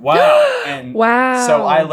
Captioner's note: gaaaaaaasp!